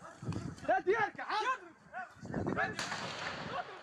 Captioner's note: people yelling in foreign language; distant explosion bangs